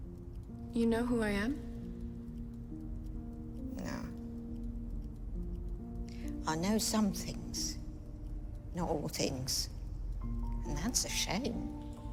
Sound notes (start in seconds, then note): none